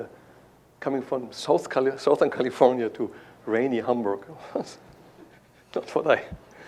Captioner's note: chuckles